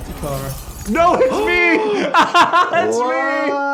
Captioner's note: laughs